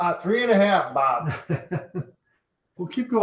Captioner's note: chuckling